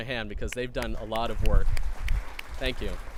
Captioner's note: clapping